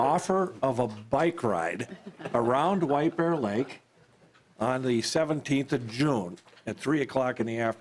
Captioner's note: laughter